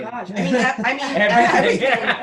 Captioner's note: laughs